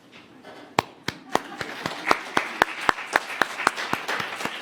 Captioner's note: applause